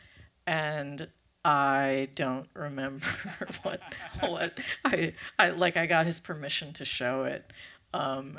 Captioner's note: laughs